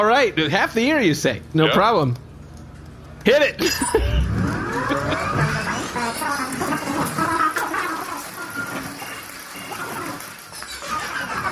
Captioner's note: fast-forwarding noise